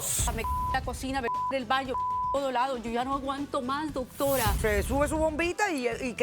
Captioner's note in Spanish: Bip; Bip